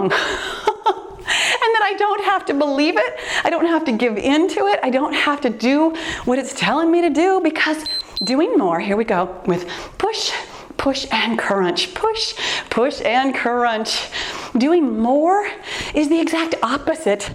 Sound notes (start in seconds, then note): 7.8 timer beeps